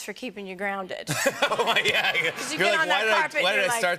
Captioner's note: laughter